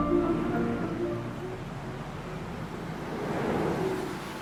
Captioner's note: traffic humming